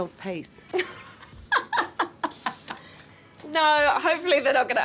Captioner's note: Anamika laughs